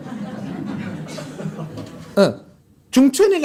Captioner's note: audience Laughter